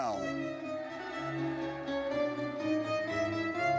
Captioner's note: audience cheers